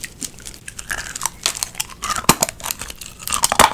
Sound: crunching

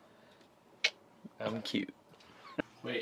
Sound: tongue clicking

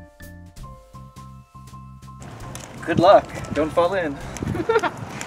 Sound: laughing off-screen

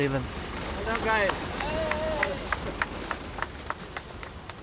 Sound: applause

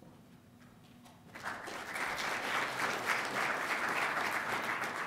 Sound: applause

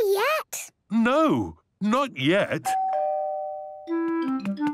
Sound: doorbell rings

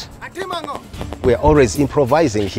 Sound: yells in foreign language

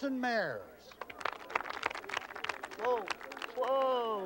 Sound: crowd clapping

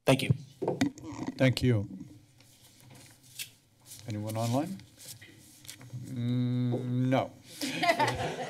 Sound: laughter

